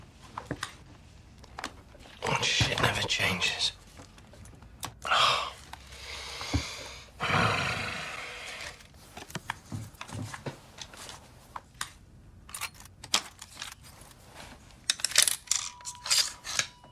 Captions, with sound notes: Shit never changes. (grunting) (gun clicking)